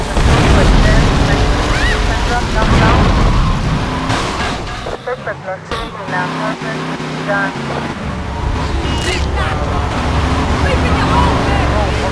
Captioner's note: tires screeching; engine revving